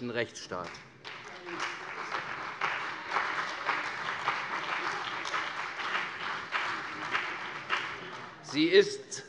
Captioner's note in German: Beifall CDU, vereinzelt BÜNDNIS 90/DIE GRÜNEN und AfD